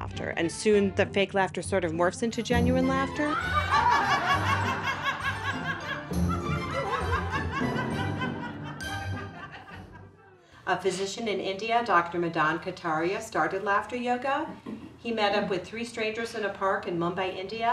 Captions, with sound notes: And soon the fake laughter sort of morphs into genuine laughter. [group laughter] A physician in India, Dr. Madan Kataria started Laughter Yoga. He met up with three strangers in a park in Mumbai, India.